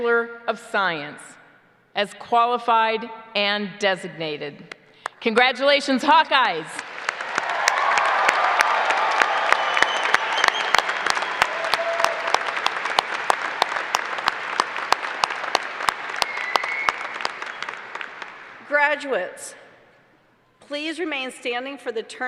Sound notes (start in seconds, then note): 12.3 applause